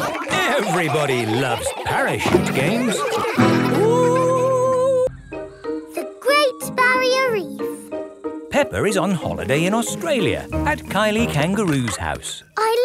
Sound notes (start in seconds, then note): 3.2 laughter